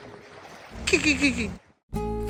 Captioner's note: mimicked dolphin sounds